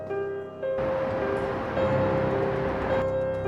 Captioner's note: city sounds